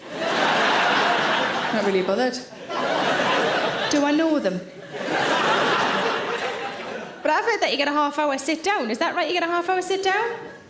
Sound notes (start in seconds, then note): 0.0 audience laughs